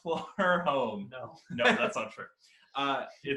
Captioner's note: laughing; laughs